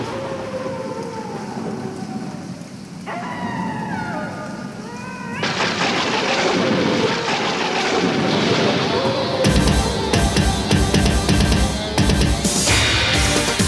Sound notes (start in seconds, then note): 0.2 wolf howls; 5.6 thunder and wind